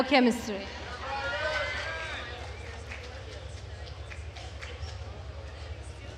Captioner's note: attendees cheering and applauding